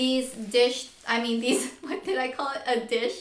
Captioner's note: laughs